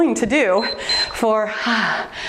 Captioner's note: timer beeps